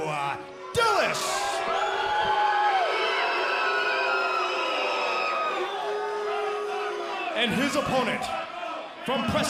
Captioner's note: crowd cheering